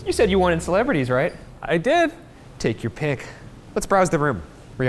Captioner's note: none